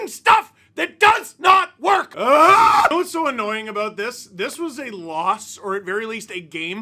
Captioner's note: scream